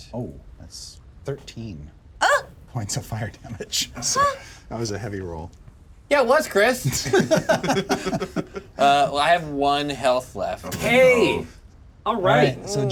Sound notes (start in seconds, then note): 6.9 laugh